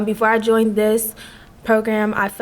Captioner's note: none